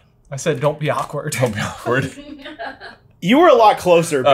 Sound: laughs

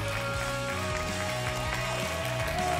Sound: applause and cheering

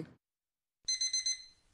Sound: alarm

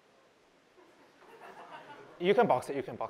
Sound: laughter

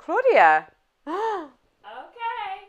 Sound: gasps excitedly

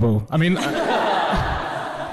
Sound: everyone laughs

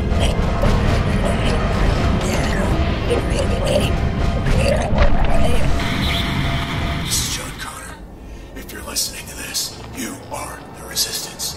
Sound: radio

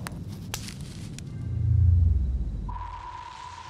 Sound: sonar Pulse

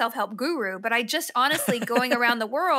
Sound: laughs

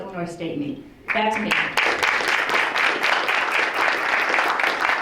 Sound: crowd applauds

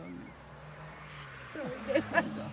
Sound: laughing

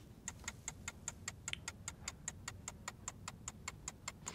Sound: clock ticking

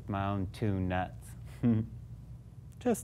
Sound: chuckle

